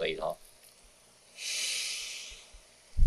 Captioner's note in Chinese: 吸氣